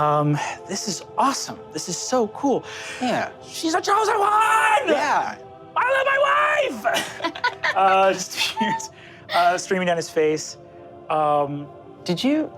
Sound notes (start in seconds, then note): 6.6 laugh